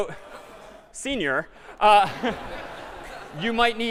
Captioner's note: laughter